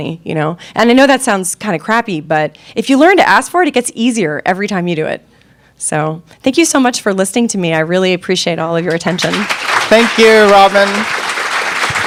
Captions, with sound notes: you know, and I know that sounds kind of crappy but if you learn to ask for it, it gets easier every time you do it. So thank you so much for listening to me. I really appreciate all of your attention. (audience applauding) - Thank you Robin.